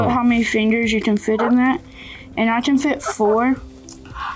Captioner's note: soft clucking